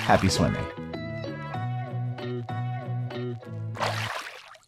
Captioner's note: bright upbeat music; water splashing